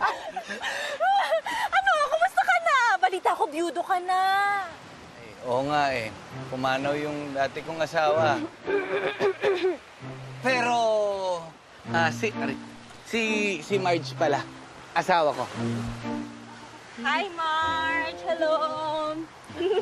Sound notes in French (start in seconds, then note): 9.0 clears throat; 19.5 giggles